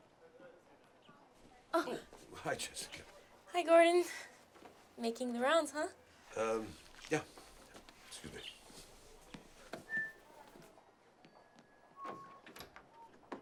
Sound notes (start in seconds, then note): 1.9 Jessica gasps; 9.9 Gordon whistling